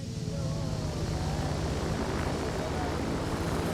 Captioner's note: plane roars